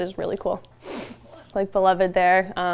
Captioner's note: horse exhales